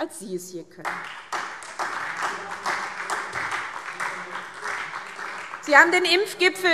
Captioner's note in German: Beifall SPD